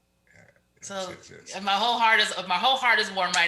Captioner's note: mumbles